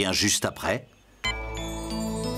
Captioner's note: beep!